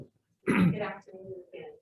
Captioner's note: clears throat